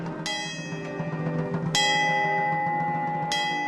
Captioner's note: bell ringing